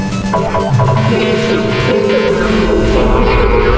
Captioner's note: alarm; female robot voice